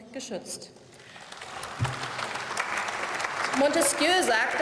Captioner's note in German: Beifall